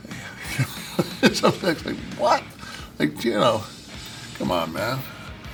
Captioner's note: laugh